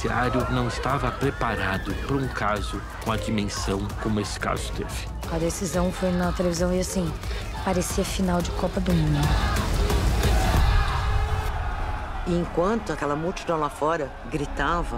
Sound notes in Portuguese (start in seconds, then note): 9.3 multidão em coro